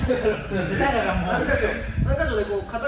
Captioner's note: laughing